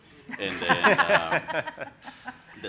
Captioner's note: everyone laughing